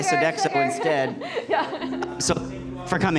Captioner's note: laughter